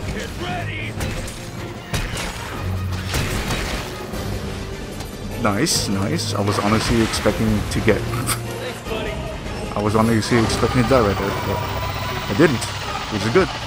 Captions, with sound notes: nice nice i was honestly expecting to get (laughs) i was honestly expecting to die right there but i didn't.. which is it good